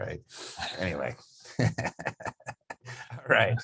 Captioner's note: laughs